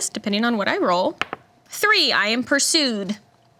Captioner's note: dice roll